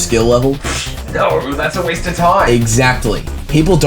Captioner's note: blows air through mouth